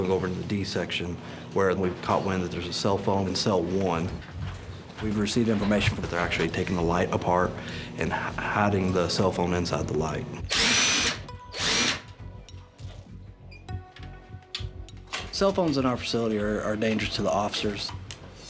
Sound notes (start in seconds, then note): 10.4 drilling